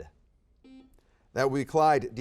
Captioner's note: buzzer beeps